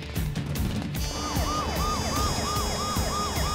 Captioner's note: Siren wailing